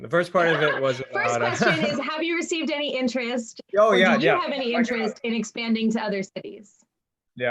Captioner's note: laughs